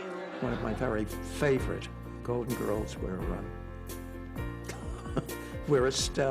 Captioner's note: laughs